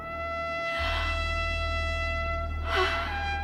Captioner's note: mysterious music; sighs deeply